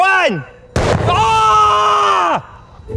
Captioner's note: cannon exploding loudly